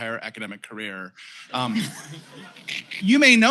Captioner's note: laughter